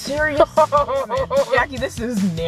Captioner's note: chuckles